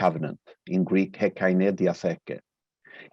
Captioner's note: speaking in a foreign language